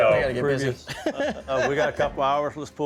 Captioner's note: laughs